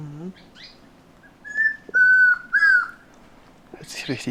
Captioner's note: bird sings